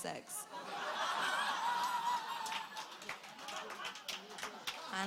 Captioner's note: audience laughter